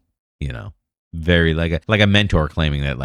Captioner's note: uh